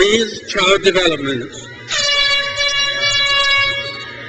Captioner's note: crowd cheers